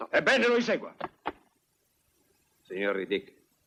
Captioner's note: stamps floor